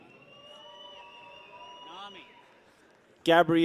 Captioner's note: people cheer